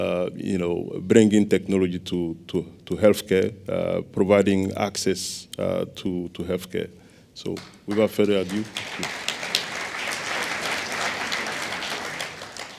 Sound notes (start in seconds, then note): 7.8 applause